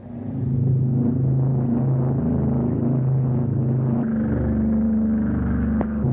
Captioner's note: airplane engines roaring